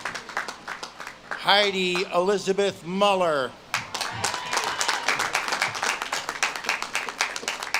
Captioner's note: audience claps and cheers